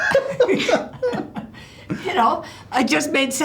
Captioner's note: laughs